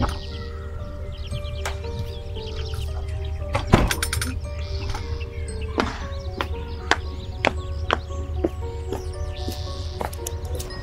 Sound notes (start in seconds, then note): 0.0 mysterious music; 0.2 door closing; 5.7 footsteps